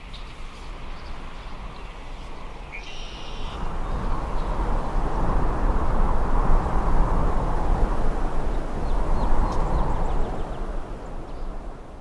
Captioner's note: birds chirping, the sound of wind